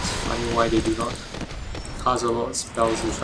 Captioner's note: none